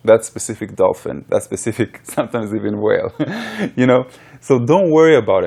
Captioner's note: laughs